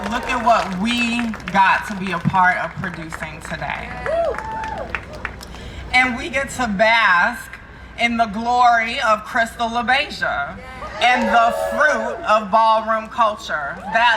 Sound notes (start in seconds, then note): 4.2 crowd cheering